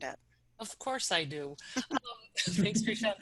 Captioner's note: laughter